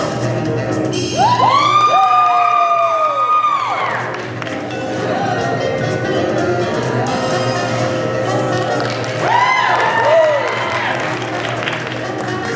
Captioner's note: applause and cheering